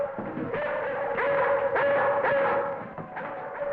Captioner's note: Venus barking